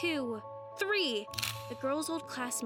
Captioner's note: phone camera clicks